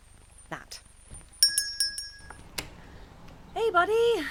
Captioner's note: door opens & Closes